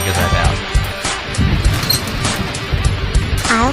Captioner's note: elevator door opens